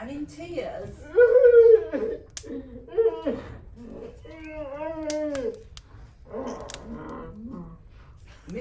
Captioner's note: Mr Tumnus is crying